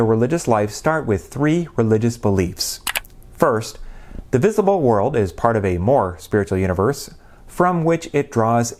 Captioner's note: mouse click